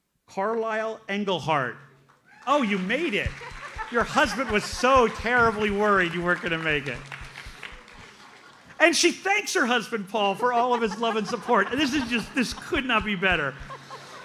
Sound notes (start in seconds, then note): 7.8 audience applauds; 14.0 audience laughs